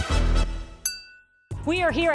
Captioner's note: glasses clink